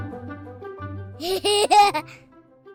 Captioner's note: laughter